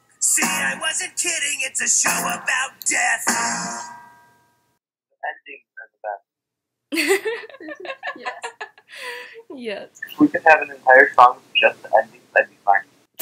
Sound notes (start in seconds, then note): 6.9 laughing